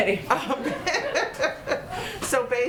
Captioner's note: laughter